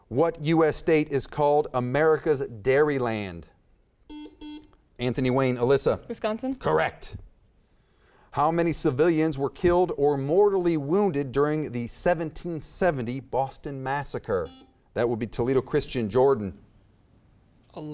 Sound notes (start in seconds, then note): 4.0 buzzer beeps; 14.4 buzzer beeps